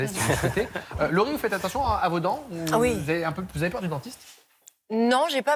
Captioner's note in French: rires